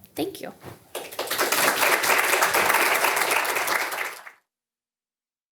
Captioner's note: audience applauding